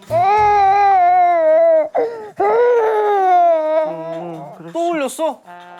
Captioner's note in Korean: 이때 울음소리